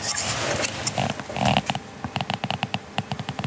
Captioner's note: creaking